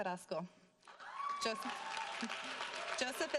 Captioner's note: audience cheering